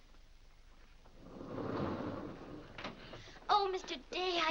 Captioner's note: doors slide open